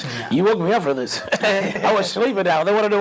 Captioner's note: laugh